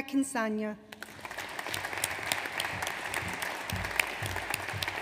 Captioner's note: audience applauds